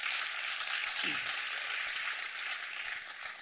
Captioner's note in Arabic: تصفيق